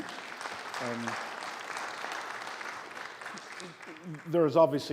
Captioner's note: audience clapping